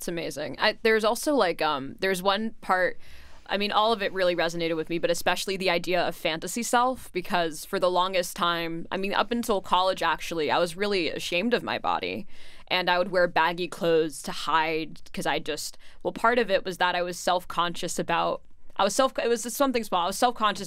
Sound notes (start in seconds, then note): none